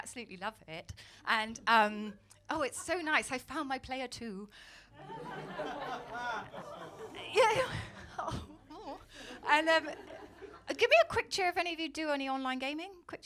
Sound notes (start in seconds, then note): 5.8 audience awws